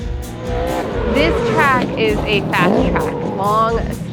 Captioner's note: engine roars